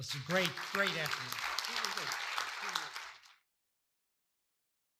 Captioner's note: audience applauding